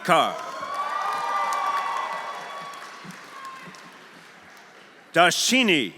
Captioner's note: audience cheering; audience applauding